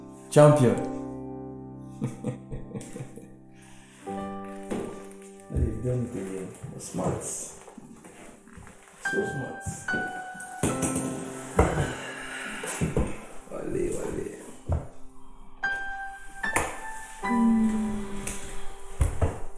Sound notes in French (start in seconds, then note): 2.0 subtle laughter; 11.3 sighs